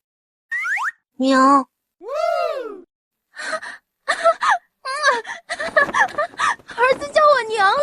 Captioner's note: laughs hysterically!